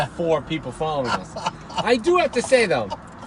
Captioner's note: laughing